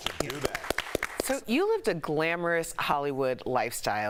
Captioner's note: applause